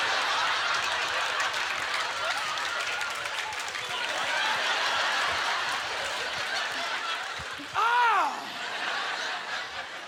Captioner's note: audience laughter